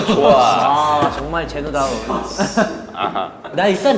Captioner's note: argh